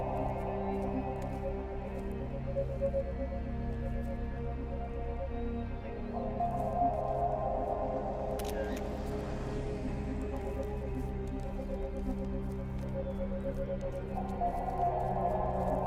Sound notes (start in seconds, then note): 0.3 mysterious music; 8.4 camera clicking; 12.8 mysterious music